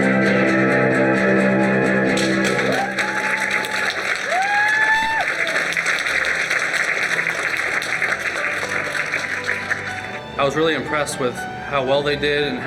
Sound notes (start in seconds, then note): 2.0 audience clapping and cheering; 10.3 gentle music